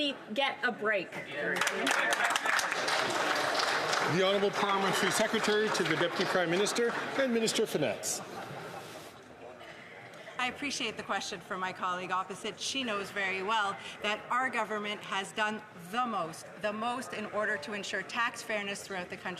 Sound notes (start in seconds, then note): 7.8 some Applause